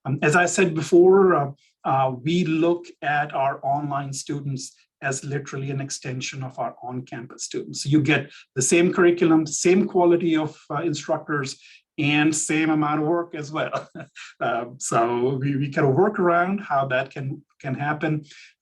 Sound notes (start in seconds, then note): 13.6 chuckles